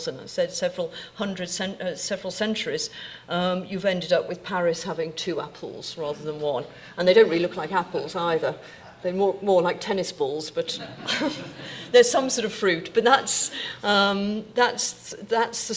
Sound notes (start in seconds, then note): 10.8 audience laughing